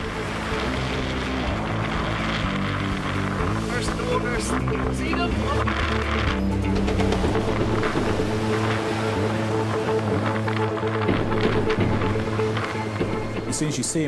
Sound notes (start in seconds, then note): 0.1 tense music continues; 4.0 people chattering; 7.0 tense music continues